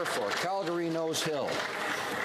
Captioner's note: some Applause